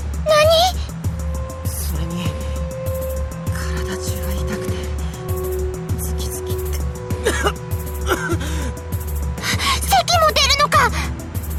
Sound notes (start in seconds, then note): 7.1 coughing